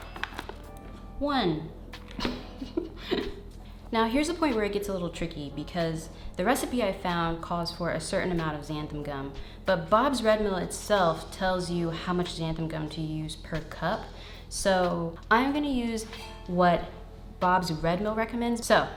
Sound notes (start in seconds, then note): 2.2 laughs